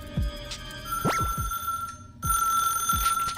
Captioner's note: ring ring~